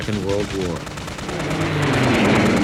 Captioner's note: guns firing; jet engine roaring